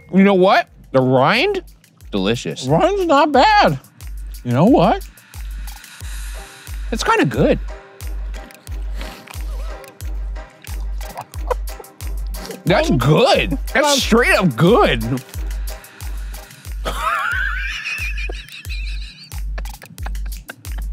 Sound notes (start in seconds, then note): 9.4 laughing; 16.8 laughing